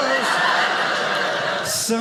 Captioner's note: audience laughing